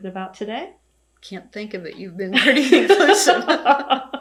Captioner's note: laughter